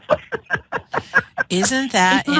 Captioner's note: laughter